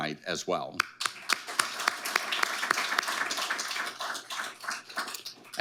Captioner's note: audience applauding